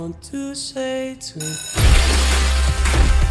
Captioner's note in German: Lautes Klingeln